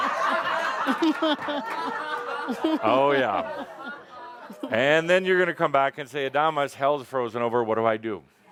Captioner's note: lots of laughter